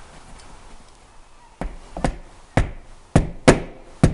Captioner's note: hammer tapping